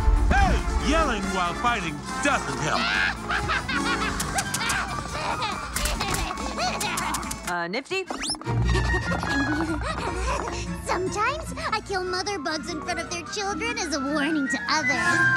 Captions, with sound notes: - Hey, yelling while fighting doesn't help. (Nifty laughs) - Nifty. - Sometimes I kill mother bugs in front of their children as a warning to others.